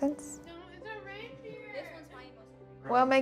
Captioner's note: family chattering